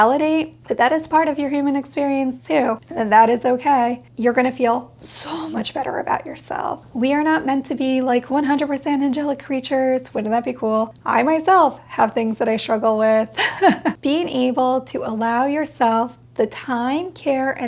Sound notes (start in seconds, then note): 13.3 laughs